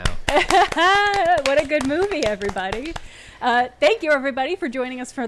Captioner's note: laughing